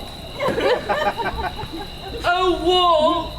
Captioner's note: audience laughs